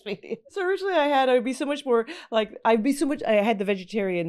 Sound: laughing

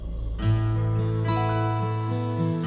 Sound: message tone rings

